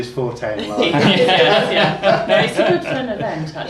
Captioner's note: laughs